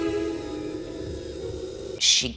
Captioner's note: gentle string music; machines beeping gently